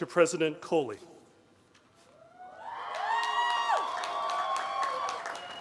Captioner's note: cheering